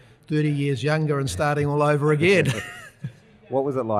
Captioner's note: laughs